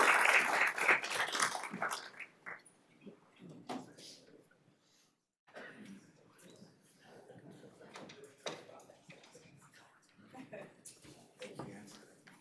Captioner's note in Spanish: aplausos